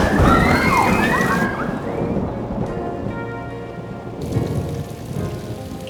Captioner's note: screaming; thunder strike